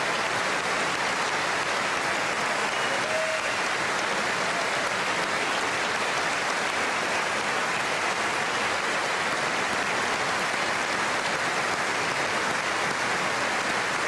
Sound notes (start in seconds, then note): 9.1 applause